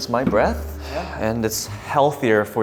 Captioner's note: exhaling